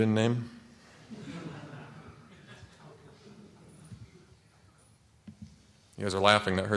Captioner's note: laughter